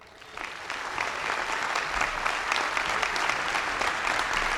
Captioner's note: audience applauding